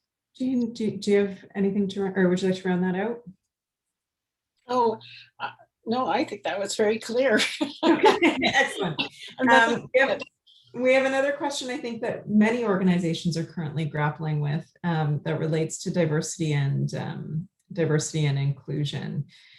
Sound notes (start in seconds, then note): 7.8 laughs